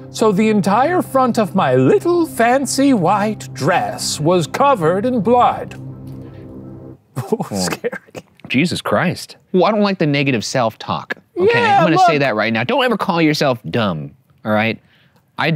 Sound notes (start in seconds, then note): 7.2 laughing